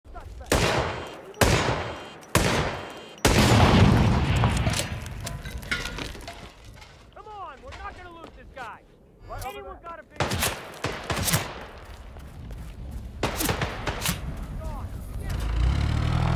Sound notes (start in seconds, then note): 0.2 gunshots; 3.3 explosion; 10.1 gunshots from NPCs